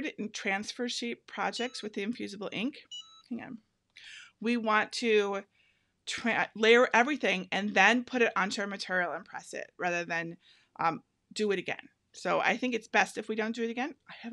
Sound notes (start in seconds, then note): 2.8 beeping